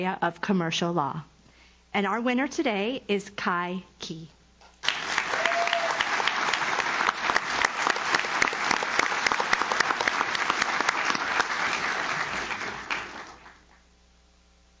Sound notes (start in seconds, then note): 4.8 audience claps; 4.8 audience cheers